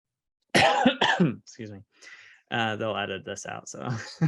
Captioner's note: coughs